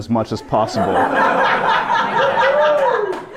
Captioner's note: more laughter